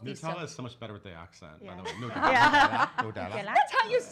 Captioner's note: laughs